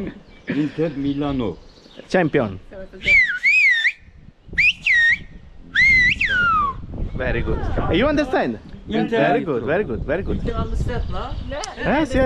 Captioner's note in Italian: Risate